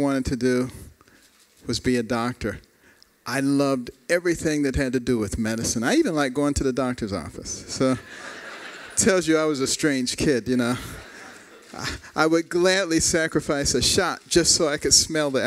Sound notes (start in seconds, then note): 8.0 laughter